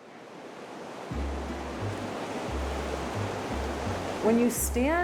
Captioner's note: waves crashing